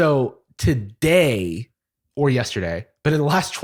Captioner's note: none